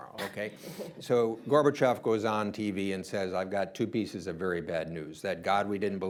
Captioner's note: laughter